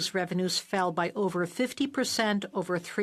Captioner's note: speaking French